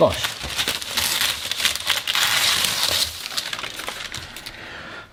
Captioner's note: paper ripping